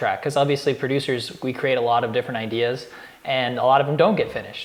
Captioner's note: none